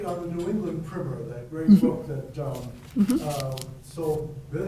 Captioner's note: faintly speaking